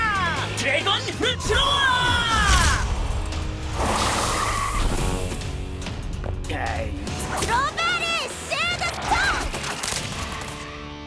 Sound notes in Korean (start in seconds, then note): 3.7 타이어 끼익하는 소리